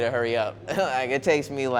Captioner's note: laughing